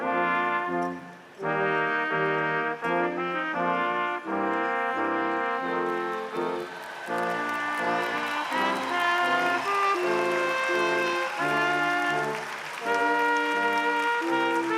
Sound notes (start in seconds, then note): 8.1 crowd applauding; 8.1 instrumental music continues